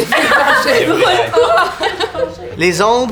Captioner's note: laughter